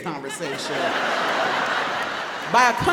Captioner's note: audience laughs